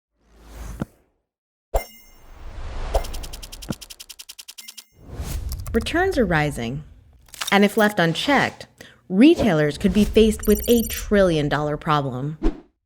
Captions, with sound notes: (split-flap display flutters) Returns are rising. And if left unchecked, retailers could be faced with a trillion dollar problem.